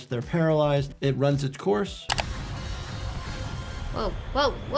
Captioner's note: mouse clicks